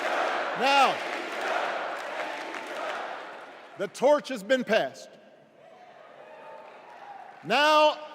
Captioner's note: crowd chanting